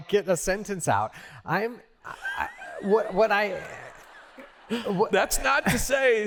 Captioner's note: laughter